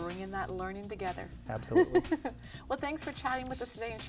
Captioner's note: laughing